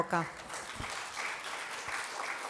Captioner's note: applause